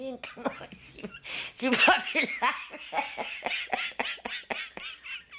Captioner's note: laughter